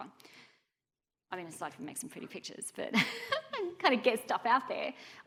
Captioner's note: chuckling